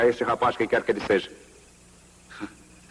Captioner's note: chuckles